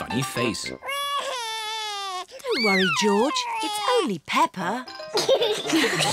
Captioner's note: cries; all laugh